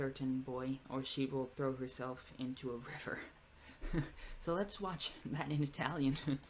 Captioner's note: laughs; laughs again